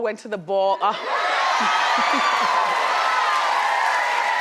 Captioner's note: crowd cheers